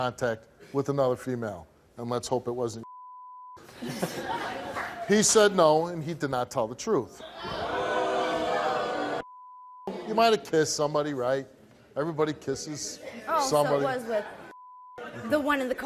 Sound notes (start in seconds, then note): 3.7 laughs; 7.3 jeers